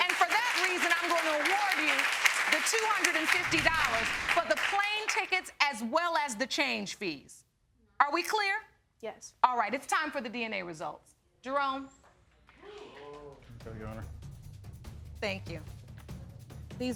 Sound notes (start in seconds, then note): 12.8 audience exclaiming